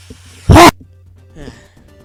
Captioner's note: sigh